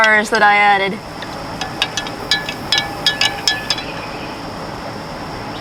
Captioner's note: spoon clinking